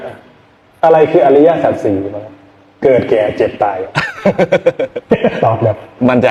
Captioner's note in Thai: เสียงหัวเราะ